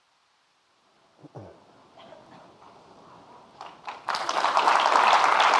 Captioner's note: audience clapping